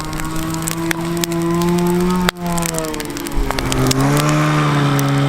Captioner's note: fire crackling; snowmobile engine revving